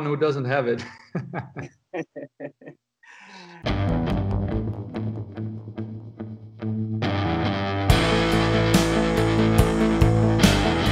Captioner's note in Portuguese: risos